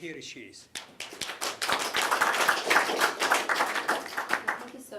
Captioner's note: applause